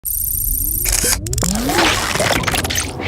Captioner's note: clicking